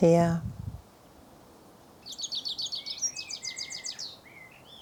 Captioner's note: birds chirping